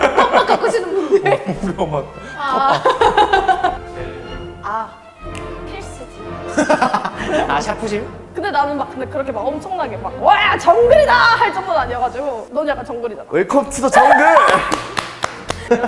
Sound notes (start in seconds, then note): 5.2 snap!; 14.4 claps